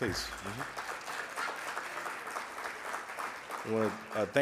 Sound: audience applauds

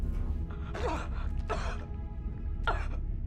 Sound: Ashley coughs again

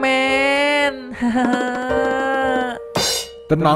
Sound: Upin Ipin is crying

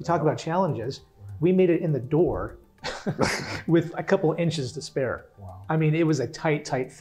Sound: laugh

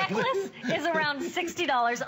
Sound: laughter

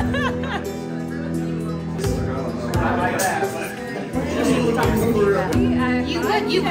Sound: group chatters

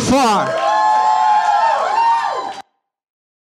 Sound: audience cheers and applauds

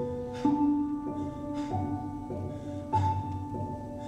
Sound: harsh breathing

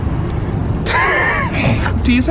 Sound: laughing

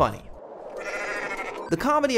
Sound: goat bleats

